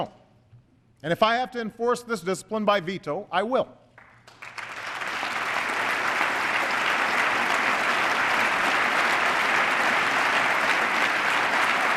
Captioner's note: applause